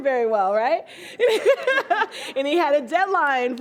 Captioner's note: laughs